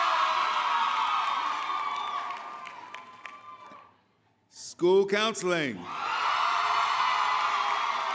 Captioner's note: cheering